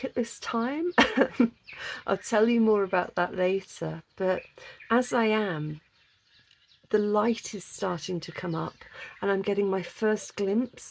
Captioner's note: laughing